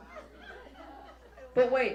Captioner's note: audience laughs